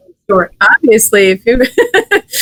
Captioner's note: laughs